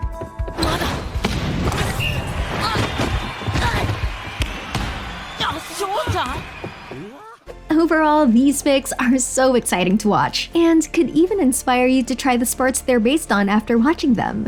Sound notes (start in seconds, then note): 1.9 whistle blows; 3.7 crowds cheering